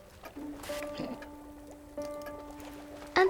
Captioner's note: sizzles